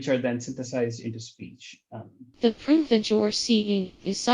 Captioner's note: synthesized voice